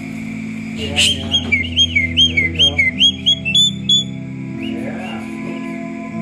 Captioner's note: bird singing and squawking